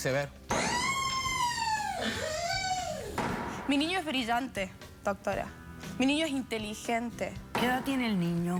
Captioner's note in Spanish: gritos